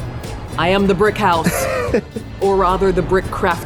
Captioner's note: laughs